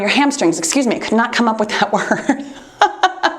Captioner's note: laughs